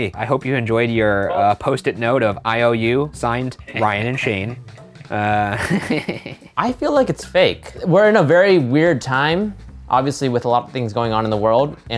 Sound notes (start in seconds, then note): 5.2 chuckles